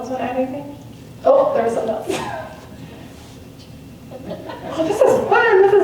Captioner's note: laughs